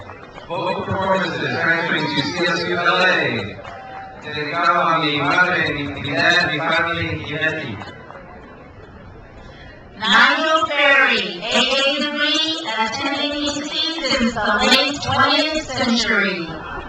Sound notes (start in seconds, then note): 4.3 speaks in foreign language; 15.7 crowd laughs